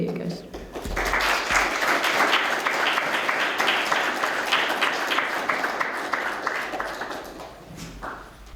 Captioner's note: applause